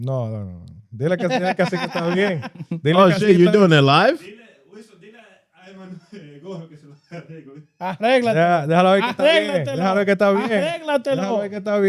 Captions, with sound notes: No, no, no. (Speaking In Foreign Language) Oh shit, you're doing it live? (Speaking In Foreign Language)